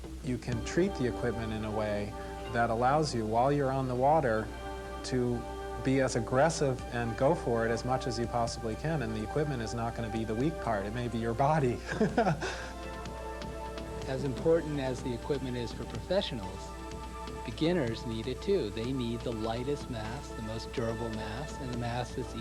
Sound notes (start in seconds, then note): 11.8 laughs